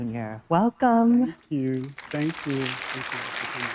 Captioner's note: audience applauding